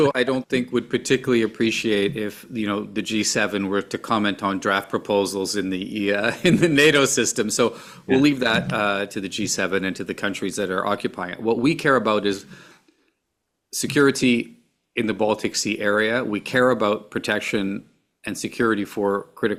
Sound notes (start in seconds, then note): 0.0 laughter; 8.1 laughs